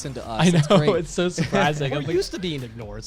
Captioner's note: laughs